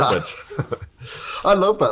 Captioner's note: both laughing